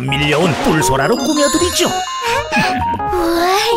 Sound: chuckles

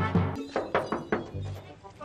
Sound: knocking

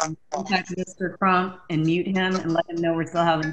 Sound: audio glitch

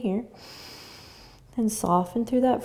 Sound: inhaling

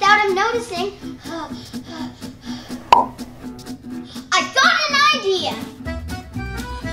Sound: pants

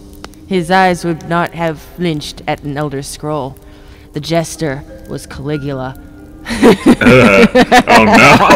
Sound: laughs

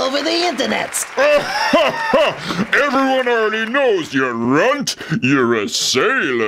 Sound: laughs

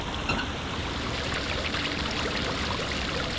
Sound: water flowing

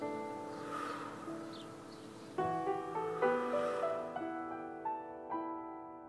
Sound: whooshing sound

